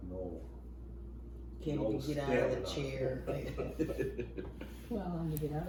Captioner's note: laughs